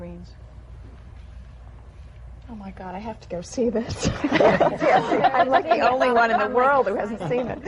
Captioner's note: laughter